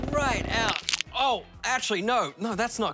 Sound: crunch!

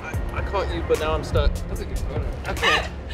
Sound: laughing

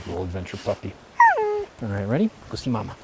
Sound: dog whines

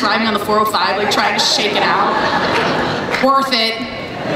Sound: everyone laughs

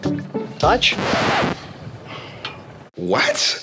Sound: record scratching

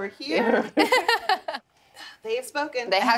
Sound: laughs

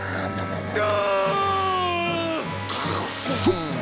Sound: groaning

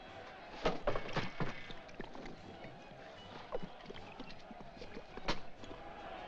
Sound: liquid gurgles; jovial music & singing

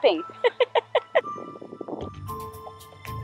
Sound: laughing

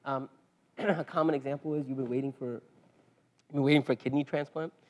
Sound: cough

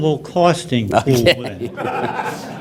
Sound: laughter

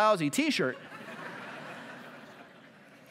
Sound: laughter

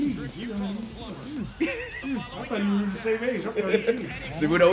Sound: laugh

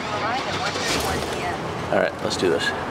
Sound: engine roars

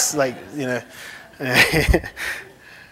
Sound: laughter

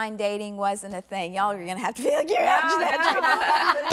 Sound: laughs

